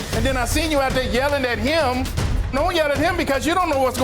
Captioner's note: none